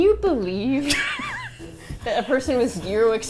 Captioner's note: laughs